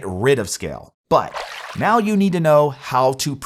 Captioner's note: graphics splash